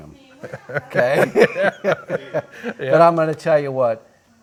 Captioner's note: both laugh